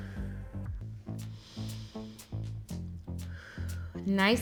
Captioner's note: inhales; exhales